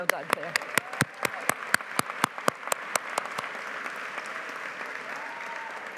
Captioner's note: audience cheering and applauding